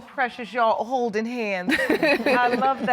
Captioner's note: chuckles